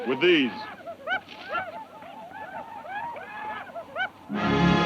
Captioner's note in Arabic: صراخ الأباتشي; موسيقى درامية